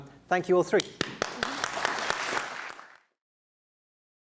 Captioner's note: applause